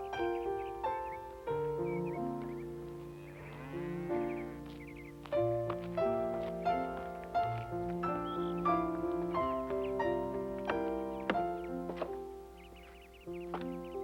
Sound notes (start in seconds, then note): 3.2 cow mooing; 6.6 soft piano music